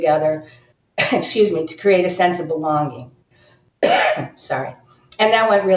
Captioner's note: coughs